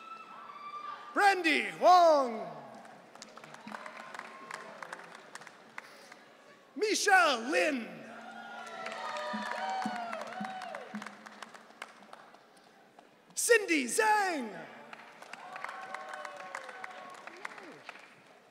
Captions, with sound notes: Brandy Wong. (audience cheering) Michelle Lynn. (audience cheering) Cindy Zang. (audience cheering)